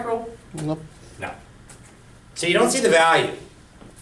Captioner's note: voiceover